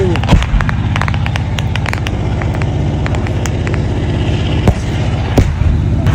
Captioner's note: the tank's engine is still running